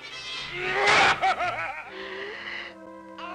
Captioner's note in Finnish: mielipuolista naurua